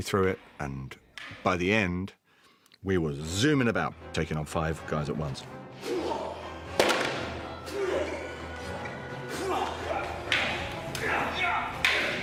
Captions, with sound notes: ...and by the end, we were zooming about, taking on five guys at once. [GRUNTS] [ALL GRUNTING]